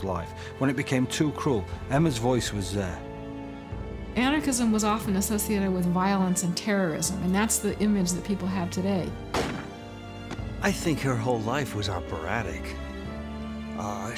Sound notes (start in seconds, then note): 9.3 gunshot